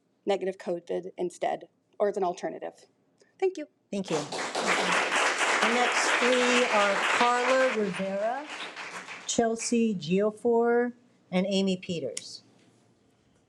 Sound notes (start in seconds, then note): 4.1 audience applauding